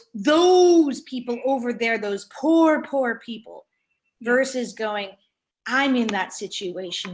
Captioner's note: none